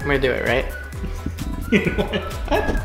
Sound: laughing

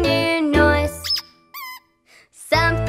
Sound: duck squeaking

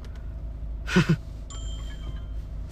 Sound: snickering

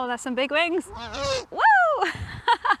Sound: owl hoots

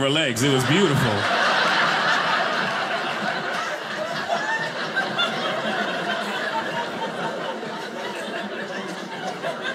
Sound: audience laughing

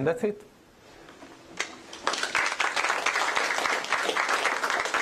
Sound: applause

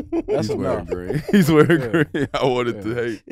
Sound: group laughs

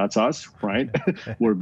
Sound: laughs

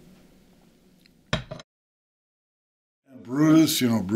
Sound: thudding of a cup

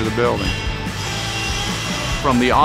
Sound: machinery rattling

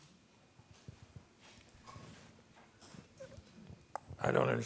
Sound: rustling

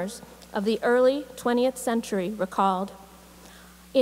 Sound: none

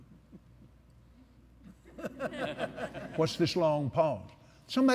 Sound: laughter

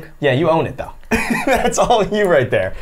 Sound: laughs

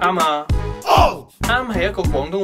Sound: Cantonese

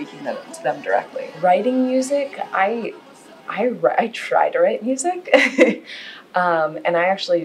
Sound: chuckles

